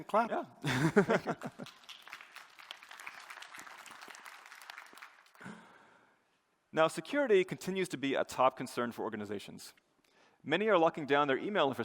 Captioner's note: applause